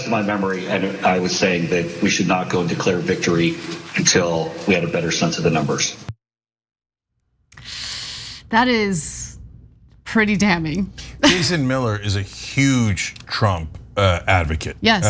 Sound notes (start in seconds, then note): 10.9 laugh